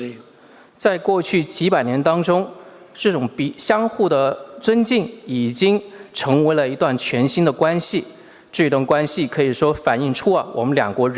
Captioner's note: speaking Mandarin Chinese